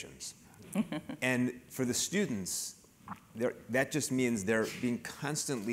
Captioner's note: laugh